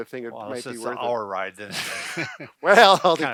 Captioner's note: laughing